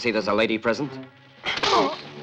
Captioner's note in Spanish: gruñe